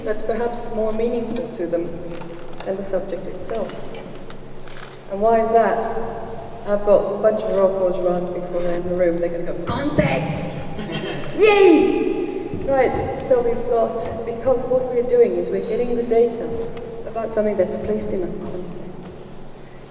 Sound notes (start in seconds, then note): 10.7 laughter